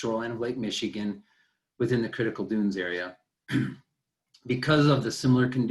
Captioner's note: clears throat